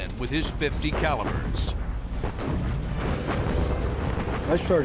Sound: explosions

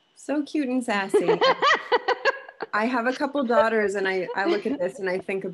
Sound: laughter

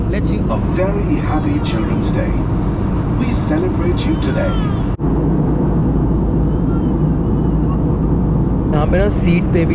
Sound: inflight announcement

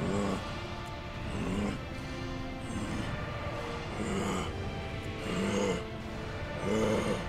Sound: growling

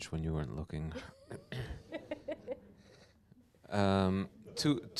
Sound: laughter

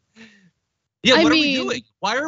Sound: laugh

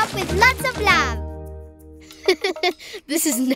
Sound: chuckling

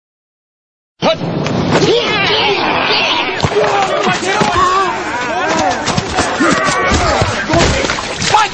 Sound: grunting

